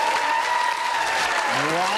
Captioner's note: audience clapping